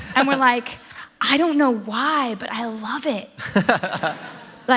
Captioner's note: laughter